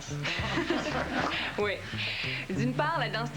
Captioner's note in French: Rires